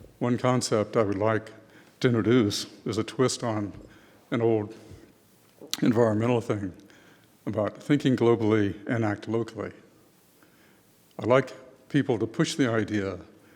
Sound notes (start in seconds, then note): none